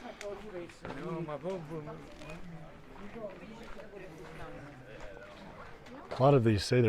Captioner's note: background chatter